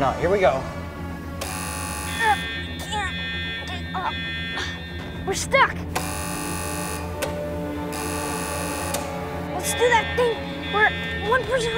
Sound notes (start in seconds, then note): 1.4 power box buzzes; 2.7 grunting; 6.2 switches buzzing and clicking; 7.6 warning sirens